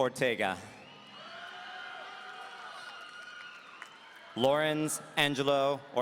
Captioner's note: audience cheering